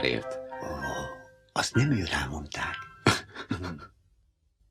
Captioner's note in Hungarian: Liszt nevet